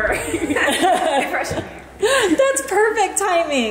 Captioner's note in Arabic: الكل يضحك